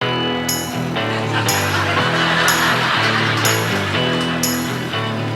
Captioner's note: lively music; audience laughing